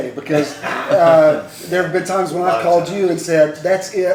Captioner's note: laughter